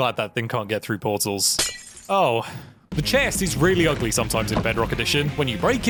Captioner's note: glass smashes